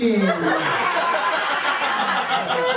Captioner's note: laughter